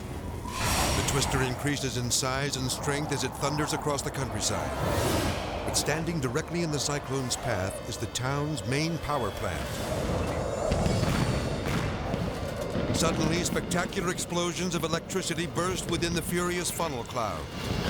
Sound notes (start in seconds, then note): 9.5 wind whooshing; 10.0 explosion booming; 17.6 explosion booming; 17.6 wind whooshing